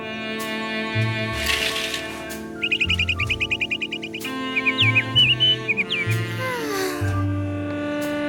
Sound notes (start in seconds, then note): 1.4 bird chirps; 1.4 curtains jangle open; 3.2 bird sings; 5.8 sighs